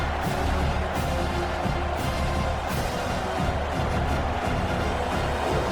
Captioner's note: crowd Noises